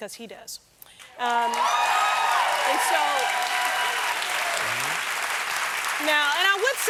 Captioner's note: cheers and applause